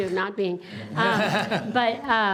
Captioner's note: laughing